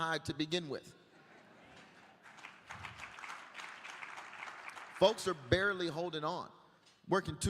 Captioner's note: applause